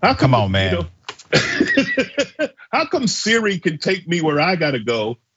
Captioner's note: laugh